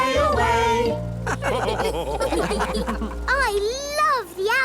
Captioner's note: all laugh